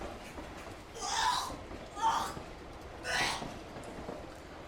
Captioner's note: woman vomits